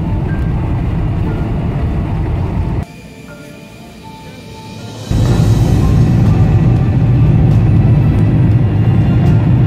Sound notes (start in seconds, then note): 4.4 engine roaring